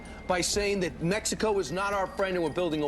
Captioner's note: A person shouts yes, yes